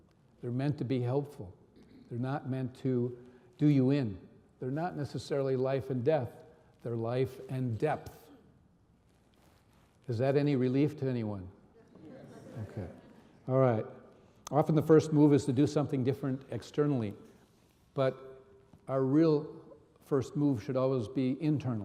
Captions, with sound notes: They're meant to be helpful. They're not meant to do you in. They're not necessarily life and death. They're life and depth. Is that any relief to anyone? (audience laughing) Okay. All right. Often, the first move is to do something different externally. But our real first move should always be internal.